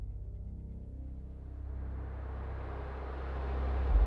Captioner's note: none